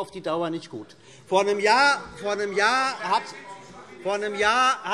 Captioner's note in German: Zurufe DIE LINKE